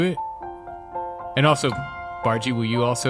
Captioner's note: none